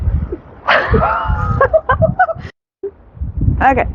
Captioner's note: laughing